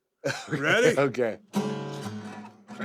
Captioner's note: laugh